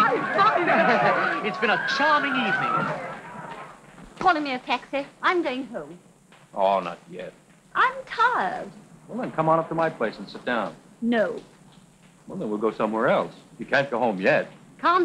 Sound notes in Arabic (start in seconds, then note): 0.0 يضحك